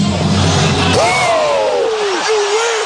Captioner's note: all cheering